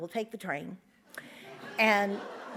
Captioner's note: audience laughs